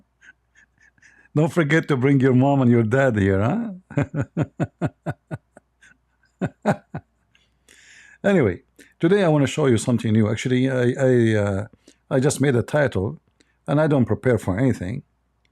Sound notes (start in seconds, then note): 3.7 Ketawa